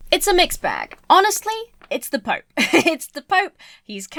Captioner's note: chuckles